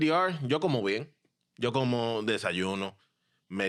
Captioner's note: speaking In Foreign Language